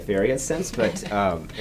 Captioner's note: chuckles